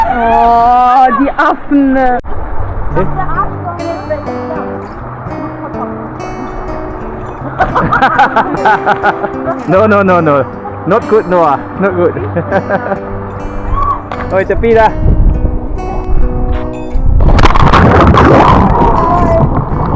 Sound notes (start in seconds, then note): 0.3 speaking German; 7.4 laugh